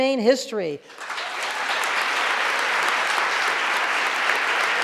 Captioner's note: audience applauding